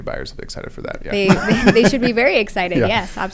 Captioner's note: laugh